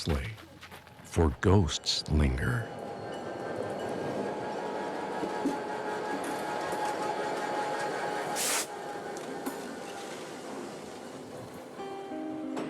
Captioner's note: eery sound of train passing